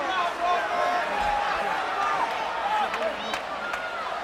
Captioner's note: crowd chattering